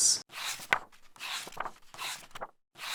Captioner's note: pages turning